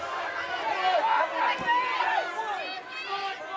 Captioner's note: audience cheering